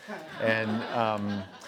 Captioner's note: laughs